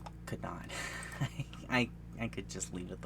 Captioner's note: laughs